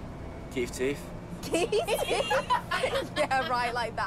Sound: laughing

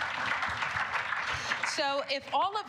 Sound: applause

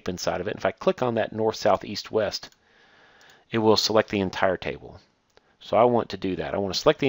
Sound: clicking

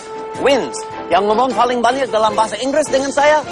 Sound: non-english speech

